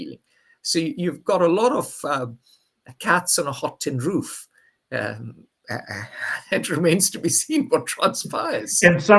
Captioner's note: laughs